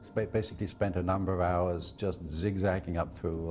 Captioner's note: voiceover